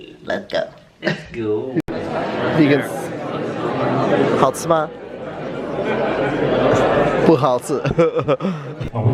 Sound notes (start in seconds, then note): 3.6 in Mandarin